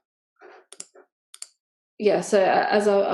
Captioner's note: mouse clicks